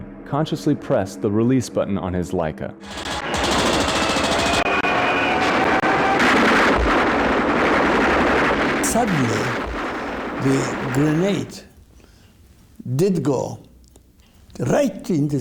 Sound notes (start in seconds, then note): 2.8 planes roaring; 3.7 guns popping